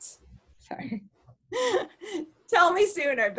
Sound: chuckles

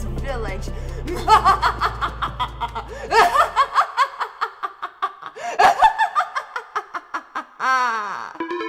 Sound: evil laughter

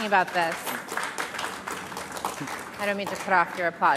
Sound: audience applauding

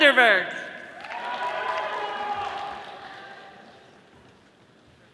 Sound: audience applauding

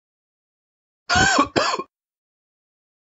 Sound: sound of man coughing

